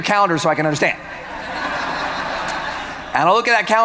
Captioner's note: audience laughing